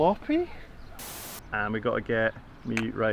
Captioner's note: static whirring